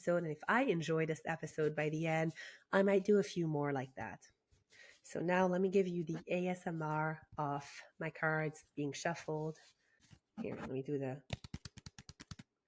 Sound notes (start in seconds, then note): 11.3 nails clicking noise